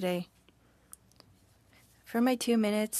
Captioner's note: speaking French